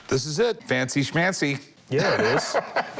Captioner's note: laughs